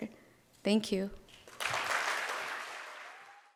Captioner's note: audience claps